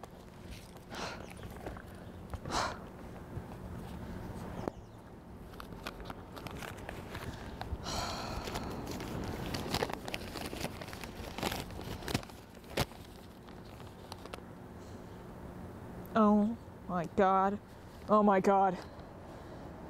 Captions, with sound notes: Oh, there it is! (paper rustles) Oh my god. Oh my god.